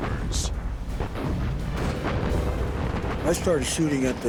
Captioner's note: explosions